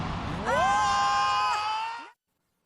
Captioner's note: shouting